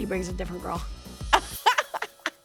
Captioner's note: laughs